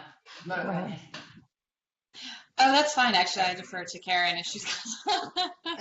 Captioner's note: laughter